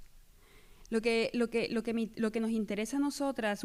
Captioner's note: speaking spanish